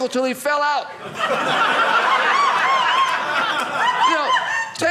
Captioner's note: audience laughing